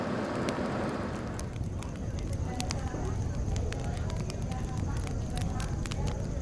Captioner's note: fire crackling